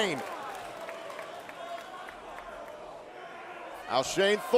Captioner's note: crowd cheering